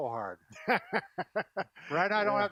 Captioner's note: laughing